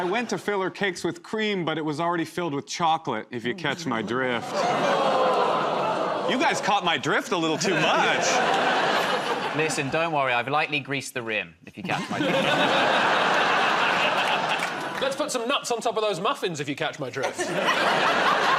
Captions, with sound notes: -I went to fill her cakes with cream, but it was already filled with chocolate, if you catch my drift. [ Audience groans ] You guys caught my drift a little too much. -Listen, don't worry. I've lightly greased the rim, if you catch my drift. [ Laughter ] -Let's put some nuts on top of those muffins, if you catch my drift.